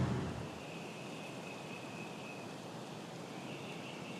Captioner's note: insects chirping